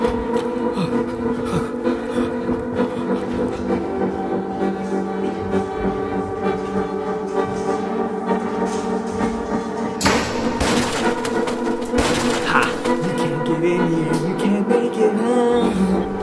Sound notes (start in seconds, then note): 10.0 elevator door rattles